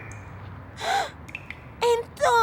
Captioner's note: gasping